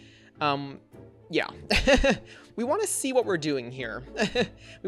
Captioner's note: laughs